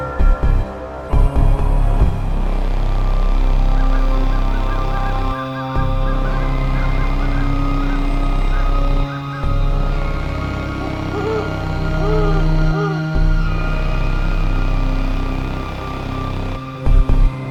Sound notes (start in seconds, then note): 1.9 crows cawing; 9.9 owl hooting; 16.8 music picks back up to rhythmic, deep bass beats